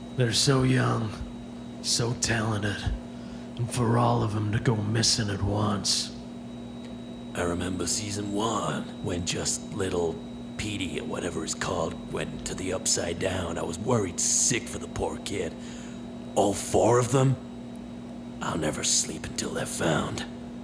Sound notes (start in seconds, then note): none